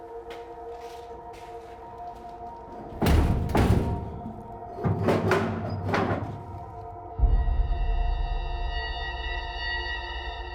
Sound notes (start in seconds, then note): 2.9 door thuds; 7.5 suspenseful music